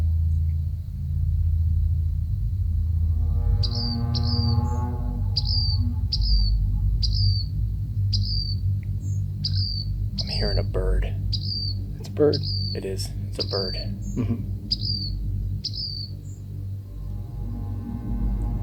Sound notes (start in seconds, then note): 0.3 ominous music; 5.1 bird chirping